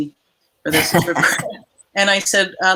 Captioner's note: all laughing